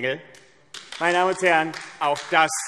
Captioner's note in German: Beifall AfD